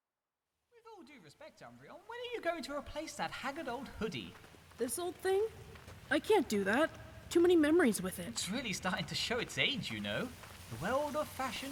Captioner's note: Umbreon and Flareon speaking distantly